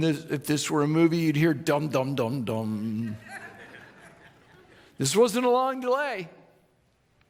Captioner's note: audience laughing